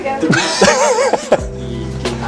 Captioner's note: laughter